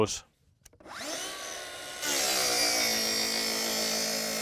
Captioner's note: saw buzzing